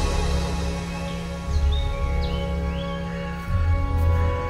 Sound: birds chirping; footsteps approaching

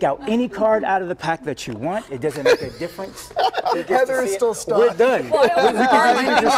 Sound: laughter

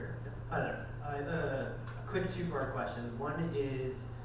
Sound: voiceover

